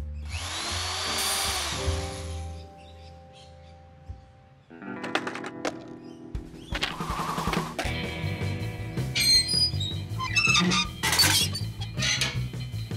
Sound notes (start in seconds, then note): 0.2 drill whirring; 9.0 metal squeaking